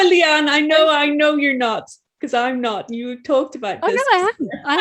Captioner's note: chuckling